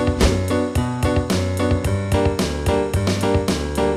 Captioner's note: whooshing